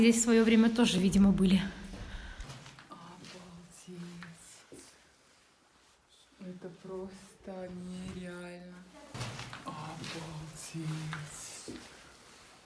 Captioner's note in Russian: шёпот на фоне?